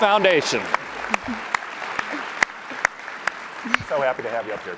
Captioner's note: applause